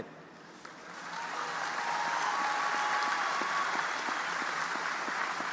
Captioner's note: audience applauding